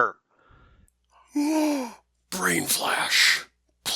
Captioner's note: gasps